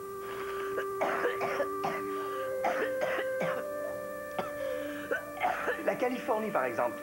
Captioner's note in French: Lili tousse